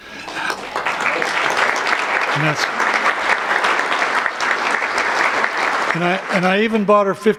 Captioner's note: applause